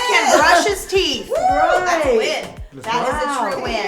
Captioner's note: group cheers